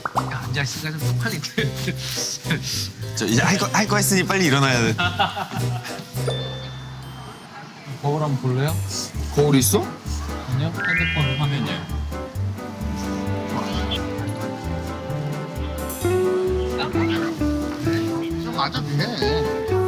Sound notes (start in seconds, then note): 14.1 sliding